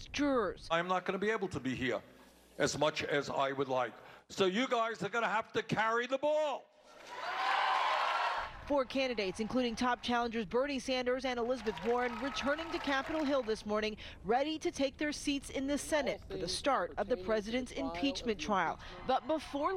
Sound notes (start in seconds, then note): 9.0 cheers